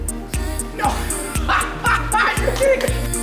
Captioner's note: laughter; upbeat electronic music